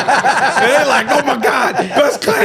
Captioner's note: laughing